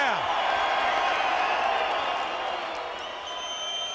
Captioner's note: crowd cheering